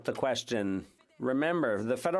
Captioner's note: speaking French